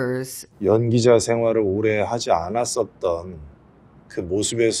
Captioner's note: speaking in foreign language